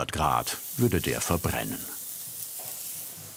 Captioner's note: sizzling